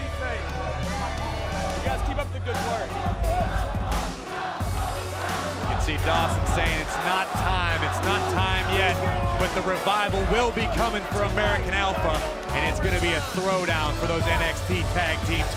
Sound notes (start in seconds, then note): 5.0 fans chanting